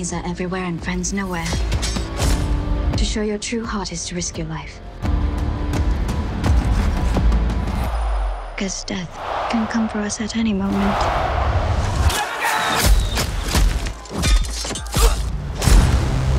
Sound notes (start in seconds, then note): 12.4 fighting noises